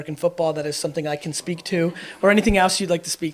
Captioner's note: audience laughs